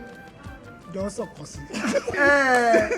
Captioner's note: laughs